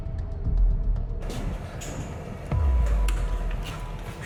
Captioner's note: clicks